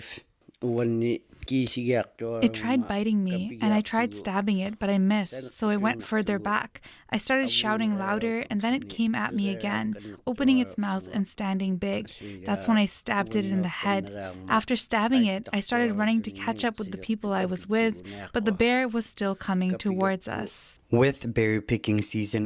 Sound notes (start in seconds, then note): 7.8 speaking Indigenous language